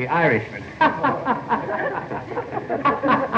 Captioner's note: all laughing